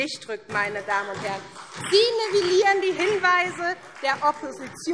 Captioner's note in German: Beifall SPD